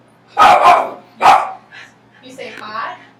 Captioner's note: dog barking